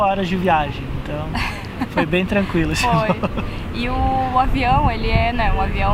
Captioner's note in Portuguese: risos